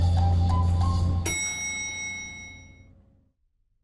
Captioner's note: ding